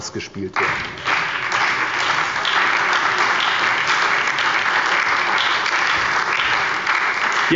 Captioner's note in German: Beifall bei der SPD und der LINKEN